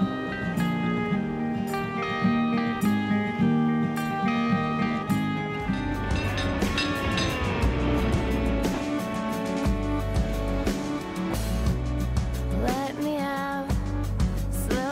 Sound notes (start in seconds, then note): 0.2 gentle music; 6.4 trolley bell ringing; 8.0 chill music